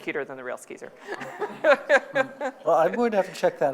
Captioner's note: laughing